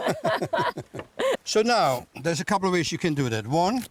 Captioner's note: laughter